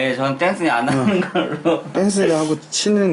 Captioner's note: haha